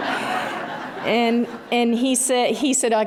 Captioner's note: laughter